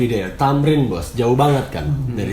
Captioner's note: speaking Indonesian